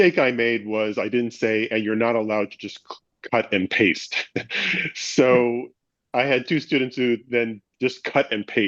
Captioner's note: laughs